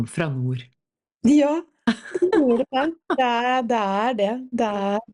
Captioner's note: laughs